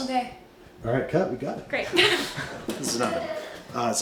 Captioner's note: laughs